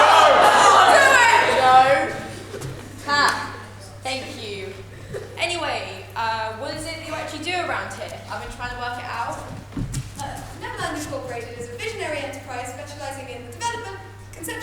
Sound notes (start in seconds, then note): 0.0 audience laughter